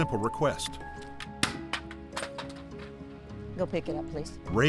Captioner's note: helmet Clatters